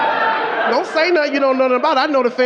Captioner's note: audience laughing